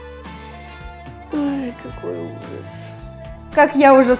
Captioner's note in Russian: вздох